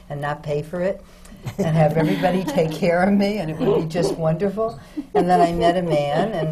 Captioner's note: laughter